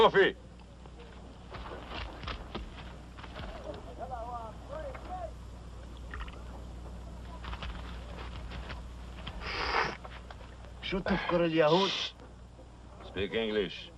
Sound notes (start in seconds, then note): 6.5 slurps; 8.8 speaking Arabic